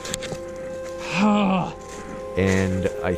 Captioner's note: frustrated groan